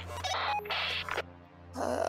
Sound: radio bleep

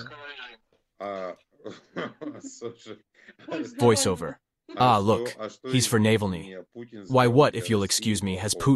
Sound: voice-over

